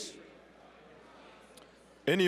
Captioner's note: general chatter